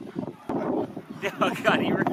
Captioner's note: laughter